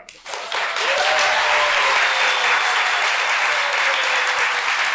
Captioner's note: cheering